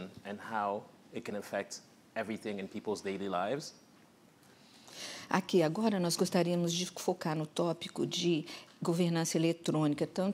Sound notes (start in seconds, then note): 6.0 speaking portuguese